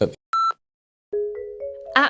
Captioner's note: beep